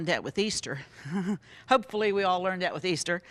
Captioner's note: laughs